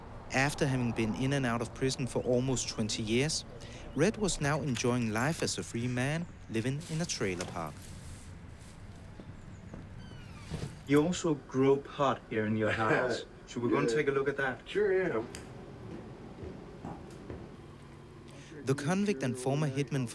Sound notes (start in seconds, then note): 6.8 bag rustles; 9.8 hinge squeaks; 13.2 laughs; 15.4 switch clicks